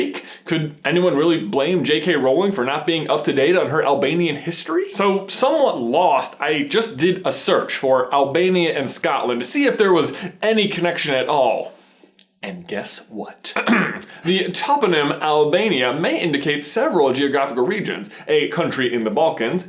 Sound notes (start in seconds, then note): 13.5 clears throat